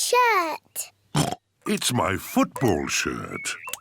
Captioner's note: oinks